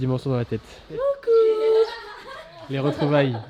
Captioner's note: laughs